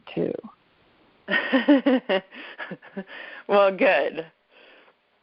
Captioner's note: laughs